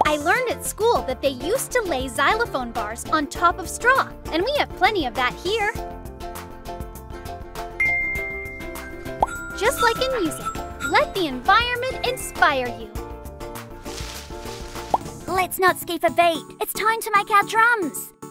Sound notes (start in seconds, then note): 6.1 upbeat music; 7.8 fingers ding when snapping